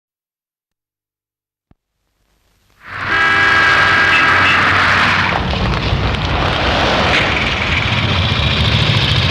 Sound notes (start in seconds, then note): 2.8 car honking